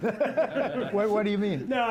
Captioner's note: laughter